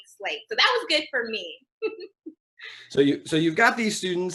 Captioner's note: laughs